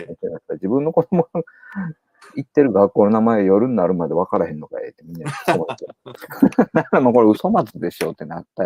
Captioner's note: laughs